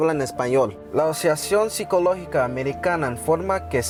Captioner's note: speaking Spanish